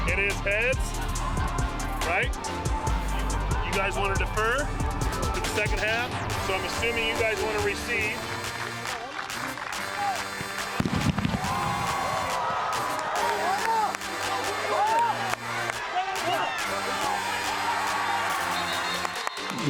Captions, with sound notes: - It is Heads, right? (upbeat music) You guys want to defer to the second half. So I'm assuming you guys want to receive. (upbeat music) (clapping and cheering)